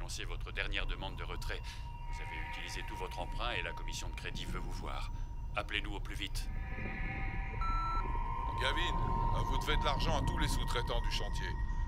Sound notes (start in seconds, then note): 7.4 beeping; 8.9 voiceover